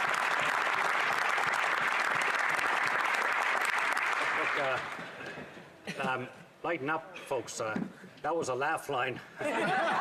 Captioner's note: applause